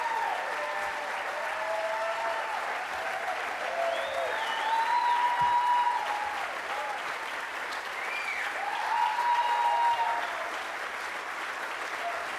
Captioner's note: applause